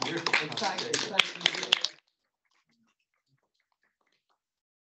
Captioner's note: audience applauds